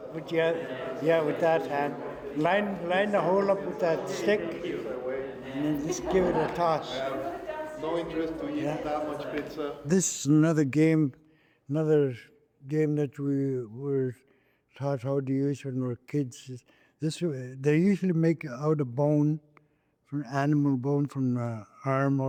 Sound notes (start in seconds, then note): 7.7 speaking Indigenous language